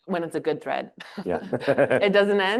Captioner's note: chuckles